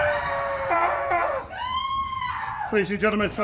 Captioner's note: person screaming